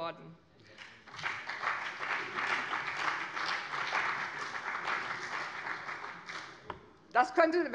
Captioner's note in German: Beifall bei dem BÜNDNIS 90/DIE GRÜNEN und der CDU